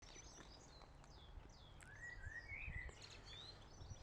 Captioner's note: birds chirping